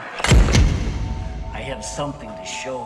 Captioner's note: thud